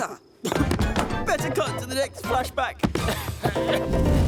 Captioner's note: coughing